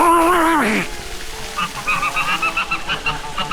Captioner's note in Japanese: うめき声; 叫び声